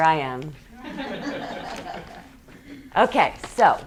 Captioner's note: students laughing